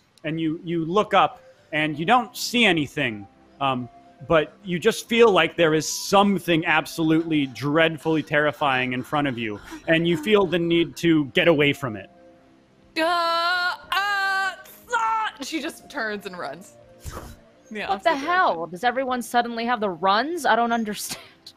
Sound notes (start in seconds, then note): 13.4 stammers